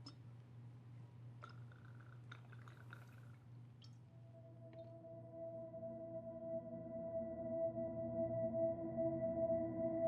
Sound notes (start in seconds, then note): 1.4 alcohol sloshing; 4.2 unsettling music